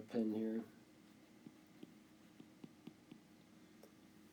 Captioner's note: tapping